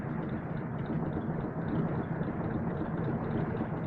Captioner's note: engine puttering